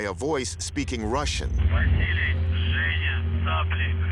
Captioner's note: speaking russian